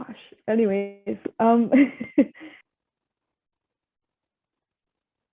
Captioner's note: chuckles